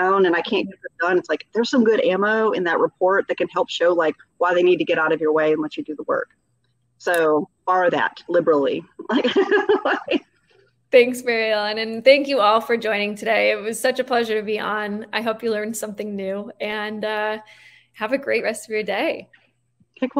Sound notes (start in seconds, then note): 8.9 laughing